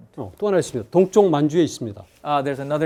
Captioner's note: speaking in Korean